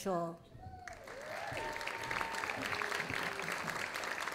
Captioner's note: audience applauding